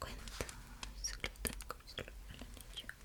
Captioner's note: intelligible whispers